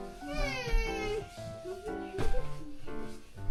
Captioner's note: crying